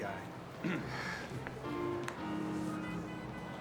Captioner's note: clears throat